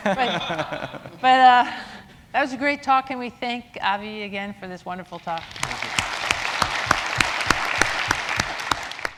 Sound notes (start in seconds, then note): 5.3 applause